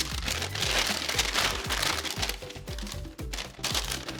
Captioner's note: paper crinkling